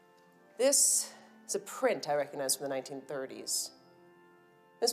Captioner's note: none